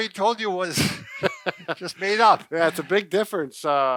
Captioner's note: both laughs